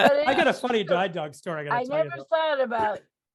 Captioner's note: laughter